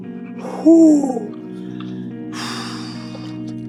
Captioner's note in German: Hund hechelt; seufzt